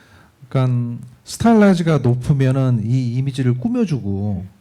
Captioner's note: speaking korean